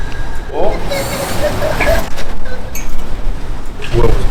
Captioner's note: suddenly hears a boy's laughter